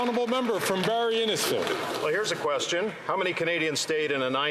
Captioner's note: some Applause